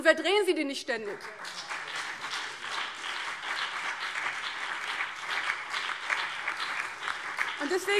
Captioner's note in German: Beifall CDU, BÜNDNIS 90/DIE GRÜNEN, vereinzelt SPD und DIE LINKE